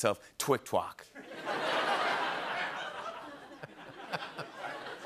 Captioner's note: laughter